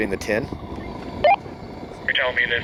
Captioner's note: radio beeps